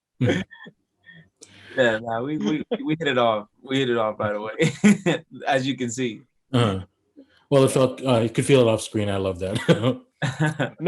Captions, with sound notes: - Yeah, we hit it off right away, (chuckles) as you can see. - Well, you could feel it off screen, I love that.